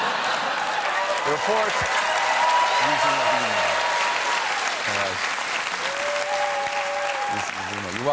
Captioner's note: cheers and applause